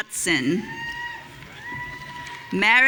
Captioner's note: audience cheering